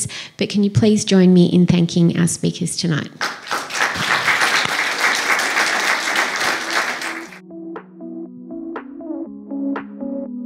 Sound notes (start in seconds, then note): 3.2 applause